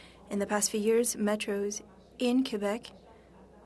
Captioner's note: speaking French